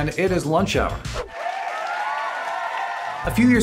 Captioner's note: cheering